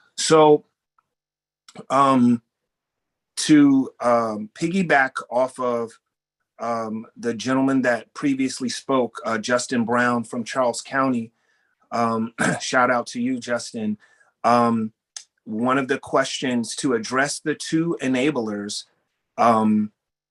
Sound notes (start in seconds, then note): 12.2 cough